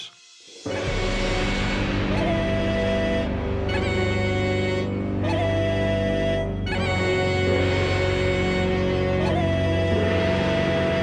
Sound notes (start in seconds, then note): none